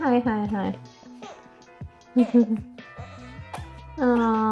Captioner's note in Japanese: 泣き声